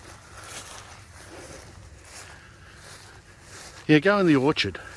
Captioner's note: footsteps sloshing